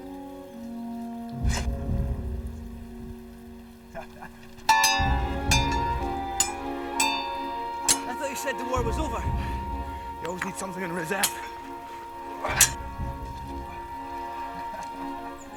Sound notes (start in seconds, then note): 4.5 swords clanking; 12.6 dramatic music